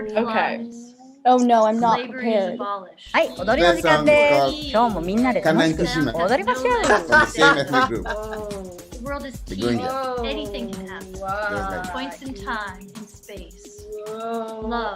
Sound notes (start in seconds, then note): 3.4 foreign language; 7.3 laughs